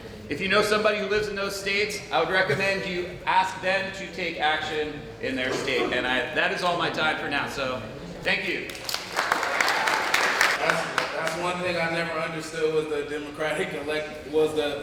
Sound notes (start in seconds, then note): 8.6 applause